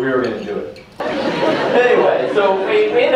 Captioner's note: laughter